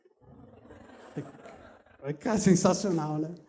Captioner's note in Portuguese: risos